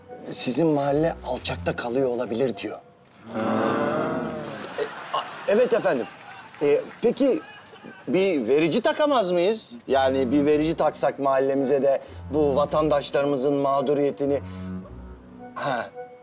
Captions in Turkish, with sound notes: Sizin mahalle alçakta kalıyor olabilir diyor. (Hep bir ağızdan) Haa. Evet efendim. Peki, bir verici takamaz mıyız? Yani bir verici taksak mahallemize de bu vatandaşlarımızın mağduriyetini... Ha.